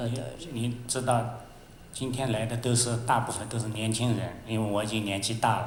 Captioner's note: Mandarin